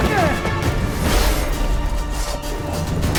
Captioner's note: Quen shield hums